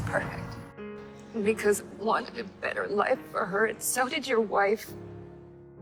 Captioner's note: voiceover